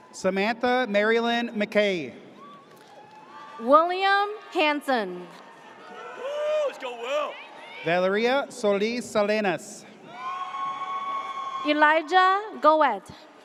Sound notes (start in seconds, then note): 10.0 audience cheers